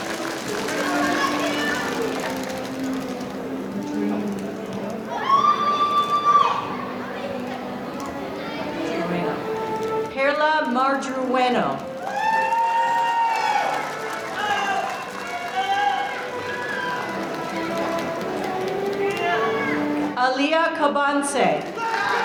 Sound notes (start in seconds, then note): 11.8 audience cheering; 21.6 audience cheering